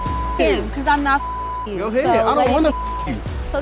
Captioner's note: beep